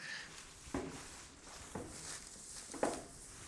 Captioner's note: rustle